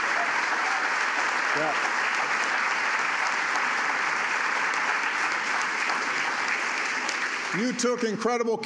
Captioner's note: applause